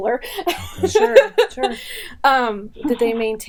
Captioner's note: laughing